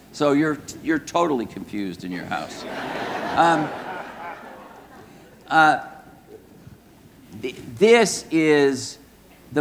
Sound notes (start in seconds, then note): 2.4 audience laughing